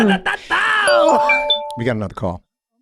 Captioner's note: internet phone ringing